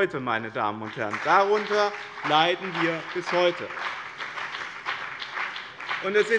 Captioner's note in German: Beifall bei dem BÜNDNIS 90/DIEGRÜNEN sowie bei Abgeordneten der CDU und der FDP